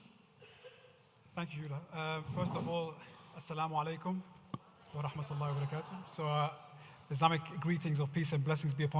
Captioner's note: speaking foreign language